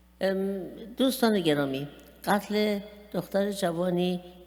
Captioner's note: speaking persian